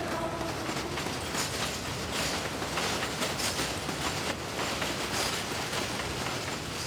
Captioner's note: train rattling